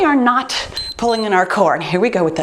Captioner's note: timer beeps